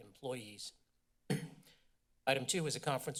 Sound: clears throat

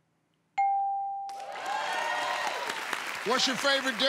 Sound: cheers and applause

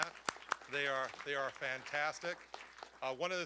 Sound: applause

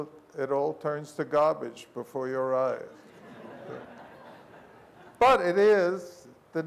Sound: laughter

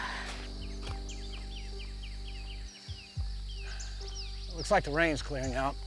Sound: birds singing

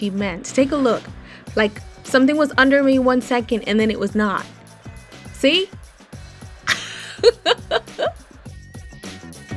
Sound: laughs

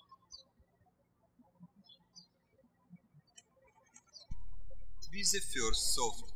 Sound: birds chirping

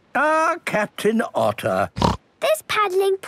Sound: snorts

